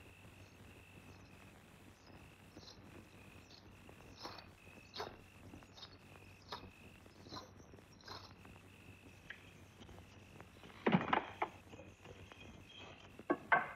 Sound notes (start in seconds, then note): 10.8 door Closes